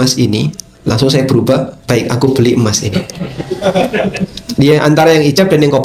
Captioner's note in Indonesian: tertawa